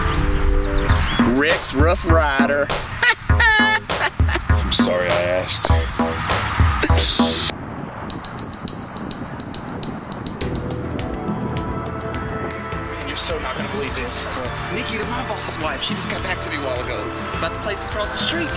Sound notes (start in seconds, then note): 0.2 stripper music; 2.7 laughs